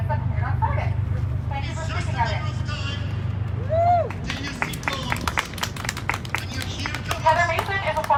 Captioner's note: cheering